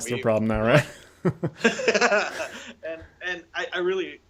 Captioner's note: both chuckling